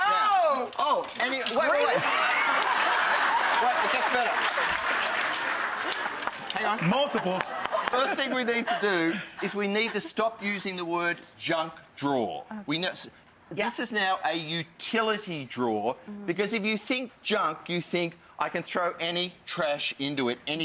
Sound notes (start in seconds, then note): 2.8 audience laughing and clapping